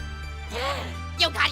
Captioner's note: gasp